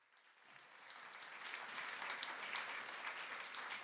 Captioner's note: audience applauds